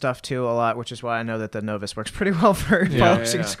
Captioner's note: laughter